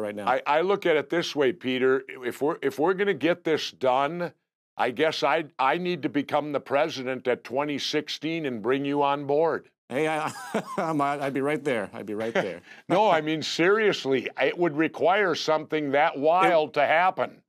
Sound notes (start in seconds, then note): 10.0 laughs